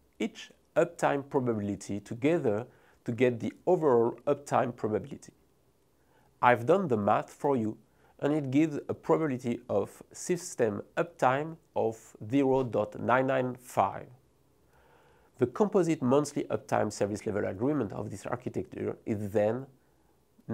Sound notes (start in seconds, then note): 13.1 text whooshing